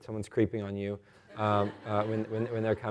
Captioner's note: laughter